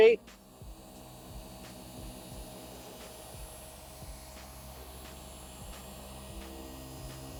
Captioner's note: machine whirring